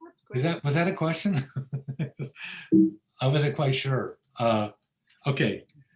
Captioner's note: laughs